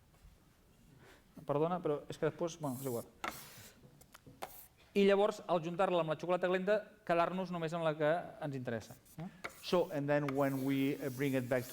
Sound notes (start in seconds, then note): 4.7 non-english speech